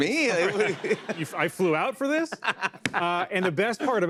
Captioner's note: laughs